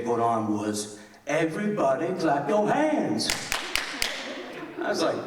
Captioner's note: loud clapping